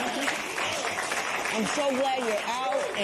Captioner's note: cheers and applause